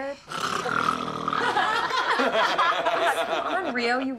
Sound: mock snoring; laughter

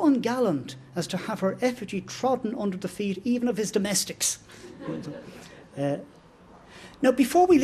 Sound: laughter

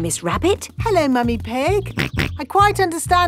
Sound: snorts

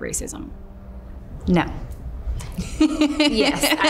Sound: laughs

